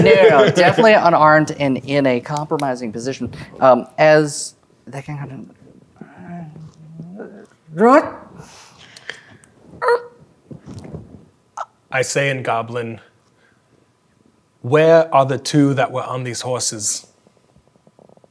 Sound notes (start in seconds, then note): 6.0 groans and grumbles as a goblin